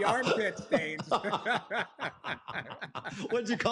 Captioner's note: laughter